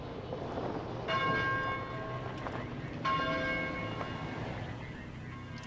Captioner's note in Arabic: رنين جرس الكنيسة